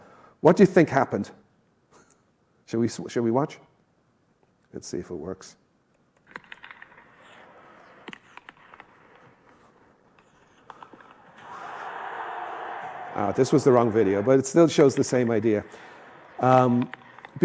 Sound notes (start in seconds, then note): 10.7 crowd cheering